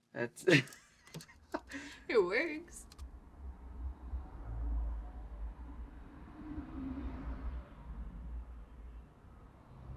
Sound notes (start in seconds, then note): 0.4 he laughs; 3.0 cars passing